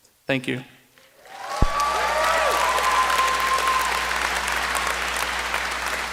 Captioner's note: applause